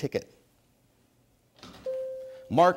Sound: bell dings

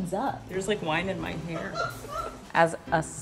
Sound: friend laughing

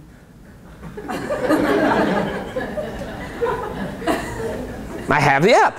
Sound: laughter

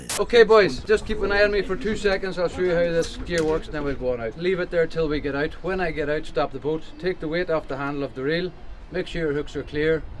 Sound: foreign language 00:06:36

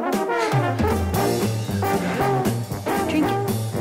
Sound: panting

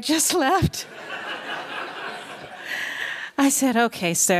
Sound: laughter

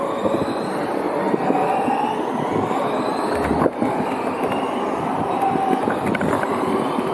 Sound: whining sounds

